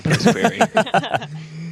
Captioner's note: laughter